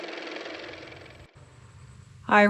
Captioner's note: car motor